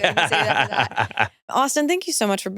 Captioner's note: laughs